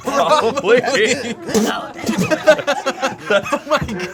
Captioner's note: group laughs